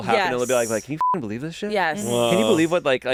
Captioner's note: beep